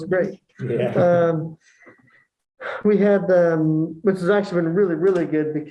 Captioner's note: laughter